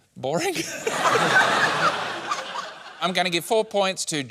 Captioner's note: laughter